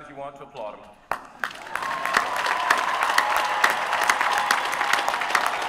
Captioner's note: applause